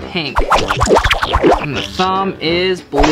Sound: whooshing

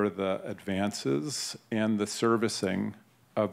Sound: none

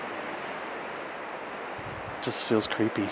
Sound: wind whooshing

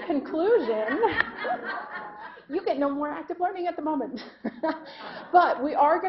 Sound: laughter; laughing

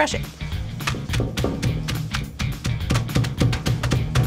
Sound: pounding

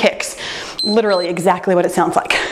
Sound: timer beeps

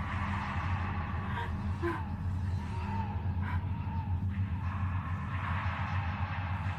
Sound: woman sobs

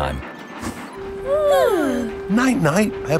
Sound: both yawning

